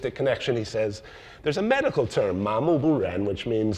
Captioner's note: speaks in foreign language